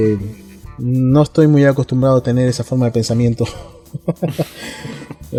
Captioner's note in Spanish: risas